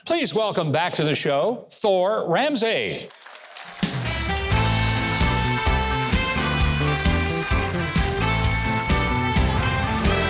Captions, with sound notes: Please welcome back to the show, Thor Ramsey. (upbeat music) (audience applauding)